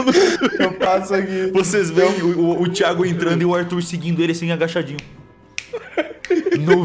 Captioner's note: snap snap snap